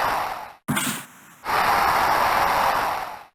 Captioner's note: slap shot sound and cheers; slap shot sound and cheers